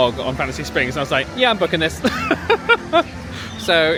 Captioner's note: laughing